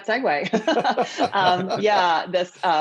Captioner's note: laughter